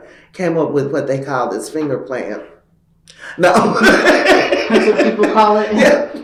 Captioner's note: laughter